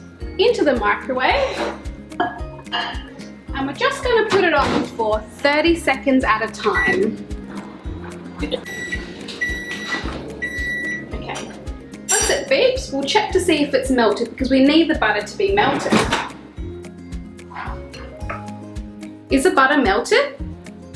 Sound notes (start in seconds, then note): 8.4 microwave beeps